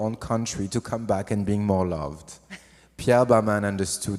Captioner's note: laughs